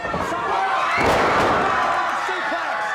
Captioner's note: audience cheers